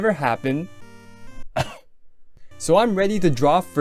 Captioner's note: cough